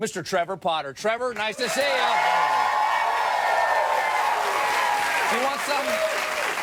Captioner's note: audience cheers